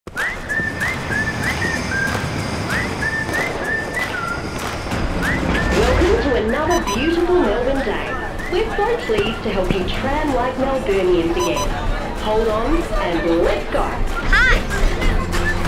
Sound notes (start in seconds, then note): 0.0 upbeat whistling music; 4.4 firework whistles; 11.2 card reader beeps